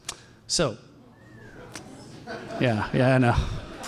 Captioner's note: audience whistles and laughs